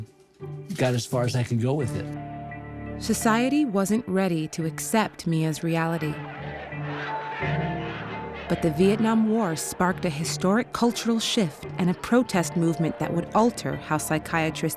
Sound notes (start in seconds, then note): 7.2 protesters chanting